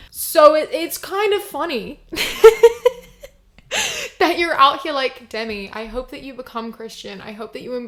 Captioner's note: laughs